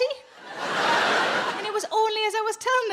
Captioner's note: audience laughs